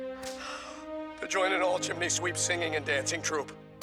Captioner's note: deep breath